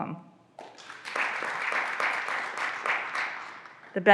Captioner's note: graduands applauding